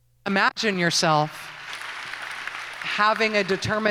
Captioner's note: applause